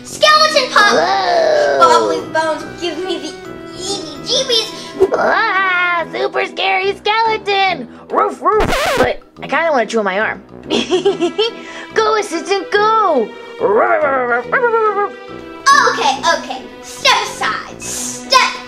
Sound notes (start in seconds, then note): 5.0 roaring; 7.8 barking; 8.6 record scratching; 10.7 giggling; 13.5 barking